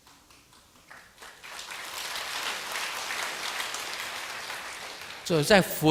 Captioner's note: audience applause